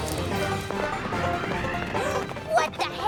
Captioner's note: gasps